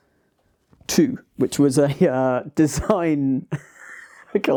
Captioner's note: laughs